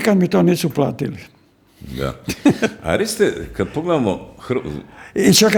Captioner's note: laughter